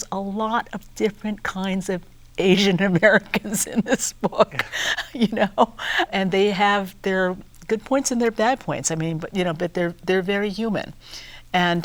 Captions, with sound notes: There's a lot of different kinds of Asian Americans in this book, you know. (laughing) And they have their good points and their bad points. I mean, but, you know, but they're, they're very human.